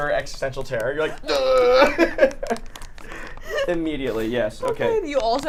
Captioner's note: groans